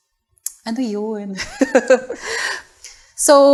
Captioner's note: laughter